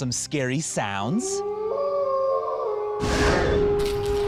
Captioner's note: wolf howling; growling